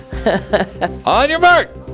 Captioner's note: laughing